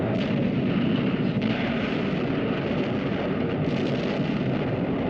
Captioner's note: bombs exploding